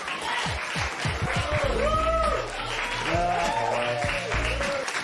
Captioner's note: applause